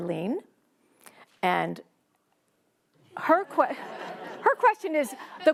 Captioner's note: laughing